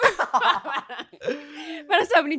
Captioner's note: laughs